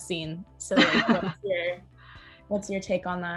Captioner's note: laughs